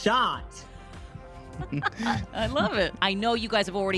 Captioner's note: laughs